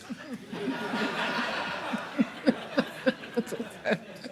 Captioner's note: audience laughing